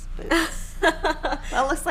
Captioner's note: laughing